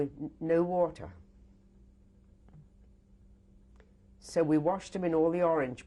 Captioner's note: pauses for 3 seconds